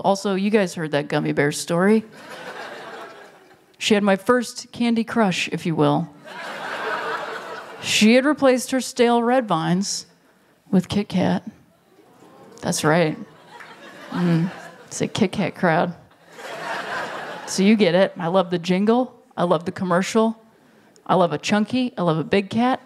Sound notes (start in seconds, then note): 6.2 laughter; 13.8 ooohs from Audience